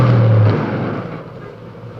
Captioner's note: bang